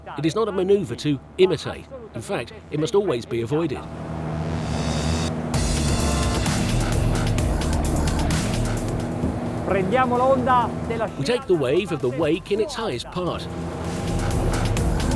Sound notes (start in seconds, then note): 5.6 boat engine purring; 5.6 intense rock music